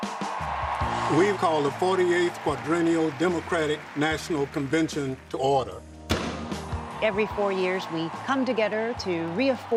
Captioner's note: gavel